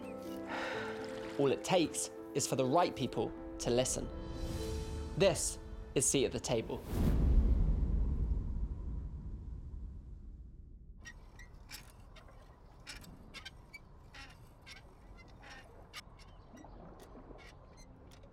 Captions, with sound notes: (sighing) All it takes is for the right people to listen. This is Seat at the Table. (creaking)